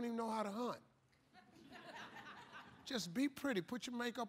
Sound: laughter

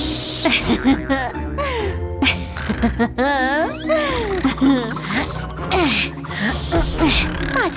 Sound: groans

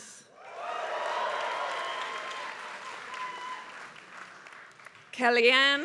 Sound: applause

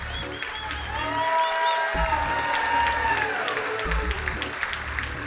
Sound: crowd applauding; crowd cheering

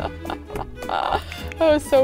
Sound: laughs

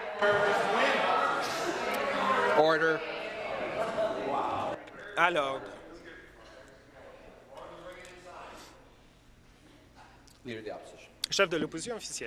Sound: conversation din

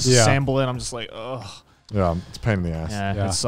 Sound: groans

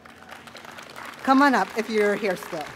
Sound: audience applauding

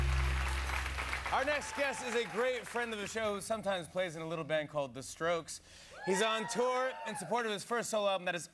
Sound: cheers and applause

